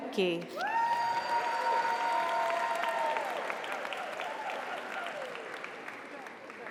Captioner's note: audience cheers; audience applauds